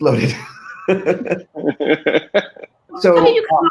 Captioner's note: group laughing